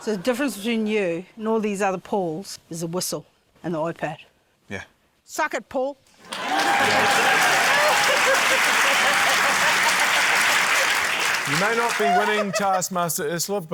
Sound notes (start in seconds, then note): 6.2 cheering, applause